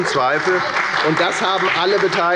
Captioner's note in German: Beifall bei der FDP und der CDU Zurufe von der SPD